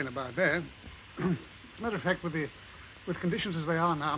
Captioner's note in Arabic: يصفي حلقه